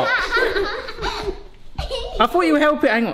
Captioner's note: laughing